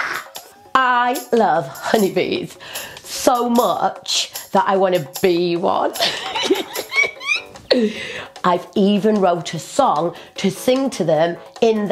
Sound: giggles

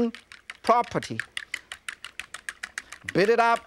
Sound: chopsticks tapping

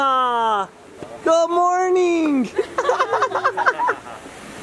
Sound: laughs

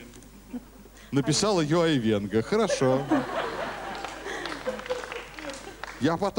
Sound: laugh

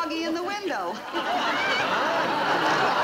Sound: audience laughing

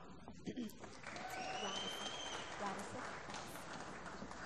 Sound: applause

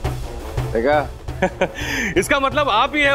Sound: Manoj chuckles

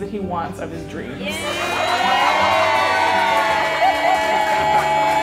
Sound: crowd cheering

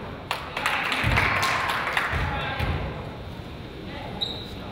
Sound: crowd applauds

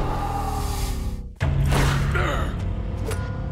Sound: grunting

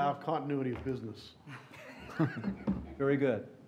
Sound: laughter

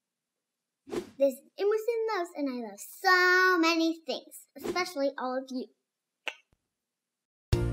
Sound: kiss

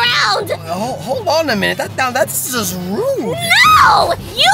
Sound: stutters

